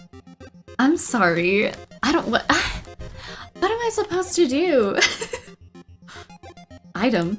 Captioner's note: laughs